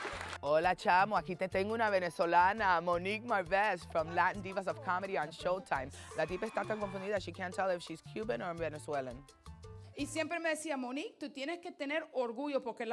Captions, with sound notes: - (speaking Spanish) Monique Marvez from "Latin Divas of Comedy" on Showtime. (speaking Spanish) she can't tell if she's Cuban or Venezuelan. (speaking Spanish)